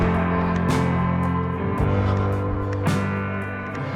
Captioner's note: heavy breathing